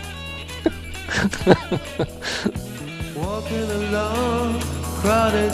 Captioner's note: laughs